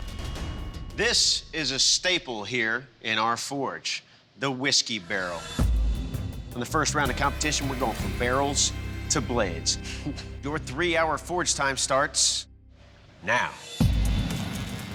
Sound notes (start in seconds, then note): 9.8 chuckles